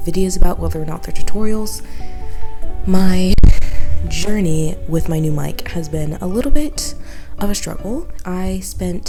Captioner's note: weird mic sound